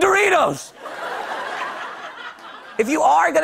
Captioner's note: laughter